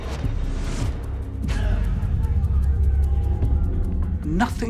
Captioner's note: grunting, shouting